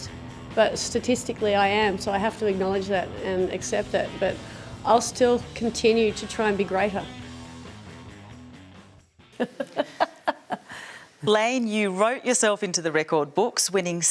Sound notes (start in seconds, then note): 9.4 laughs